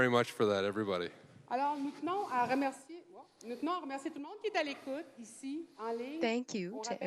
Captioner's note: speaking French